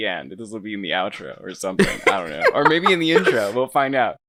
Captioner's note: laughing